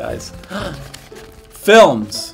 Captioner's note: Antoni gasps